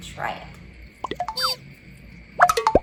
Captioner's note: horn blaring